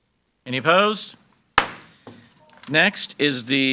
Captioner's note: gavel bangs